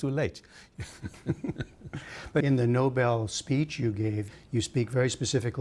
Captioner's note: laughter